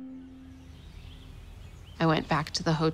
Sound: birds chirping

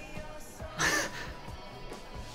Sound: laugh

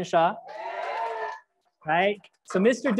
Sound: crowd applauds and cheers

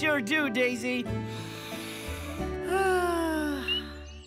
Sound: inhaling deeply; frogs chirping

